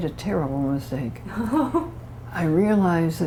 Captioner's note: laughter